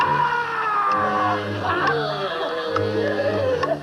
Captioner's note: Smee shrieking